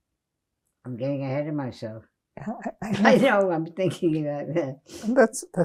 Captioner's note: laughing